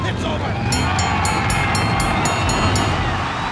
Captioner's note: bell rings; crowd cheers